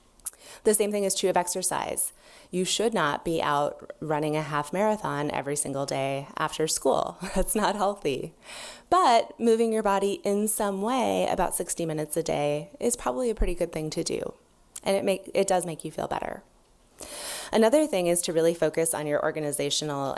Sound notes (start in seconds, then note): 6.5 laughs